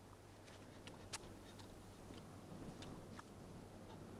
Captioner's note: Hundra chewing